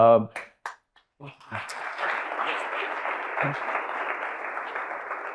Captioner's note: audience applauding